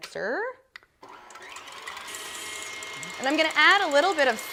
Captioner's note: click; whirring